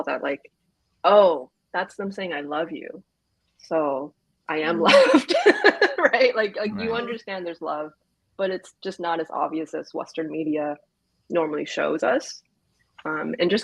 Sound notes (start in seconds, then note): 6.4 laughs